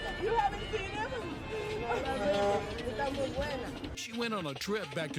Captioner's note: child speaking Spanish